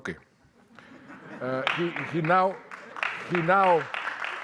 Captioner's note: audience laughing